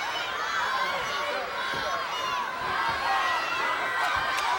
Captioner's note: fans shouting